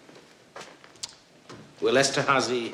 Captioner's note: clicks tongue